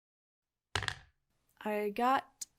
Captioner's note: dice rolls